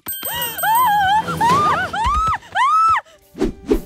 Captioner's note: screaming